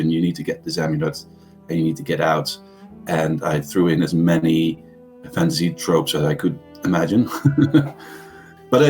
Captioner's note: laughs